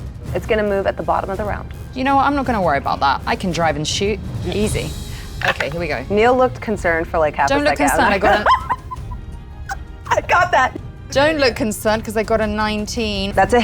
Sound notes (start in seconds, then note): 7.7 laughs